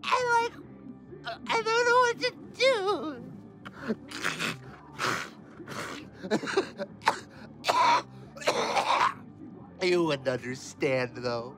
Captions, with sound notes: and like, I don't know what to do! (nose blowing) (coughing) You wouldn't understand, though.